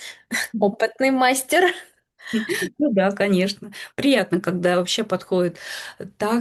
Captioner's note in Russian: смех